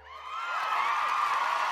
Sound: crowd cheering

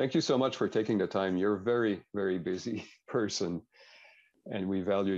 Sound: chuckles

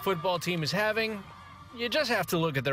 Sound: cheers and applause

